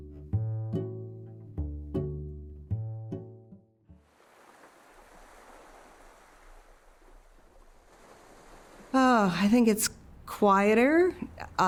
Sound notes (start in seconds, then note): 0.0 soft guitar music continues; 4.1 waves crash